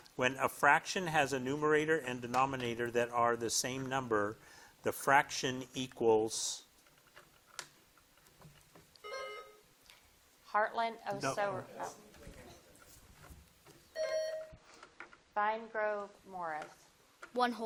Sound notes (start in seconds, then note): 9.0 buzzer dings; 13.9 buzzer dings